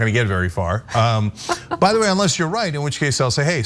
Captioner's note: laugh